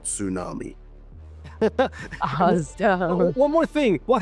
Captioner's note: laugh